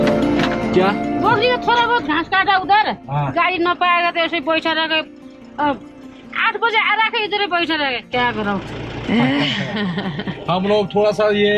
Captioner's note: chuckles